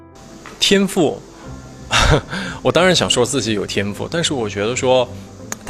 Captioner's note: laughs